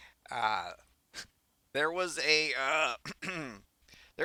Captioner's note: clears throat